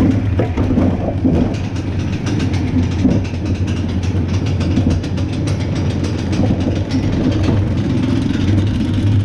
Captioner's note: chain clicking